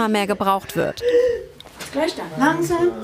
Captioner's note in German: Schreien